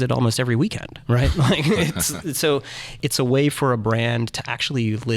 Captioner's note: laughing